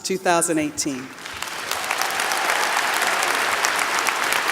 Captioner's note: applause